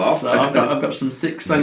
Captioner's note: laughs